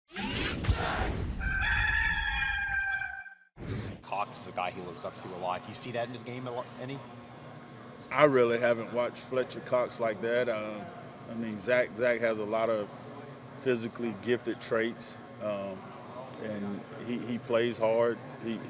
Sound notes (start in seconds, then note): 1.4 A rooster crows